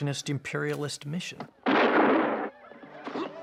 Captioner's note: fires